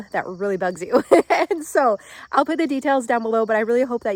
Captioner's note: laughing